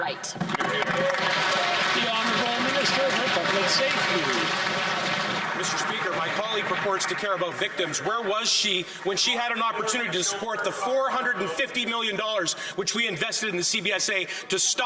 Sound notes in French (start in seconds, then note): 8.3 voix de l'interprète